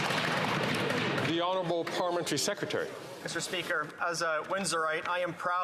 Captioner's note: some Applause